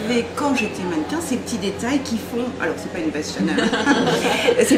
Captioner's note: laughs